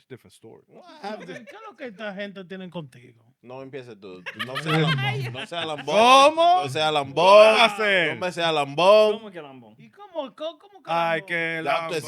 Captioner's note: speaking In Foreign Language